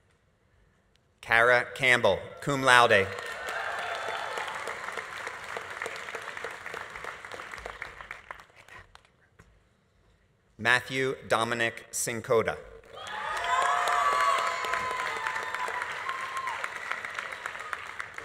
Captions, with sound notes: - Kara Campbell, cum laude. (audience applauding) (audience cheering) Matthew Dominic Cincotta. (audience applauding) (audience cheering)